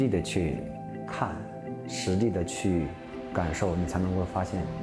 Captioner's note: speaking chinese